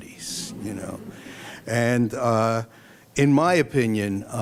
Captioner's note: laughter